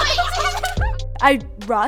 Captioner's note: laughs